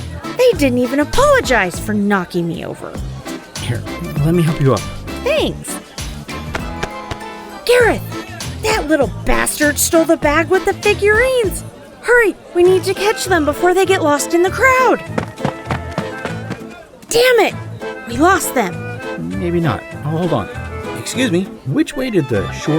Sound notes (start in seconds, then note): 14.6 running